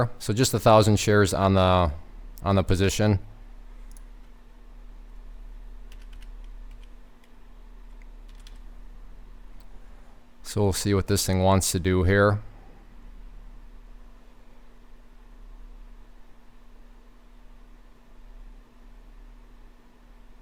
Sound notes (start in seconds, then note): 5.5 typing